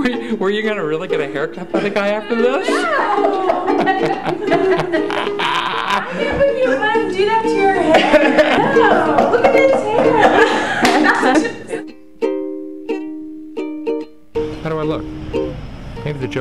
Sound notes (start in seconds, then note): 3.2 girl laughing